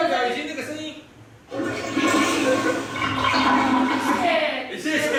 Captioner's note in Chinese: 流水聲